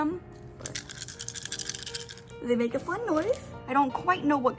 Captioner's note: claws clicking together